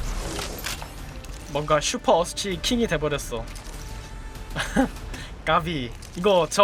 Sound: laughs

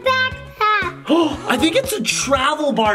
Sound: gasps

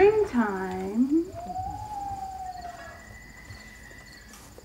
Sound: loon Call

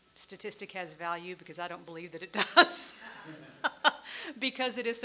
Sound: laughs

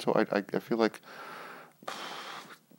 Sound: sighs

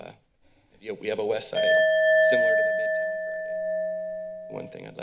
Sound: timer sound

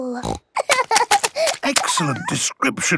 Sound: snorting; giggling

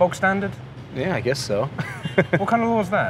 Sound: laughs

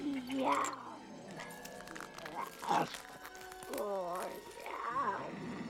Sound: chomping

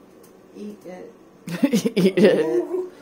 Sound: laughter

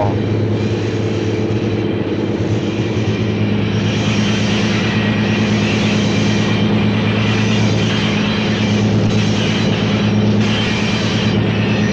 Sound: sound of the train moving

